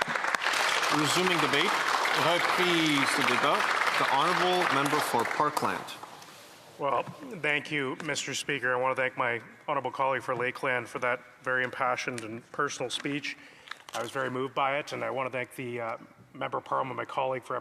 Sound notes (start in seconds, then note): 4.4 applause